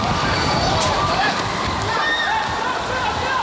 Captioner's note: people yelling